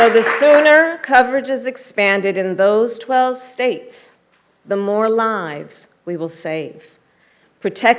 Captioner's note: applause